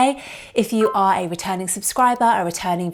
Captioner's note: bell dinging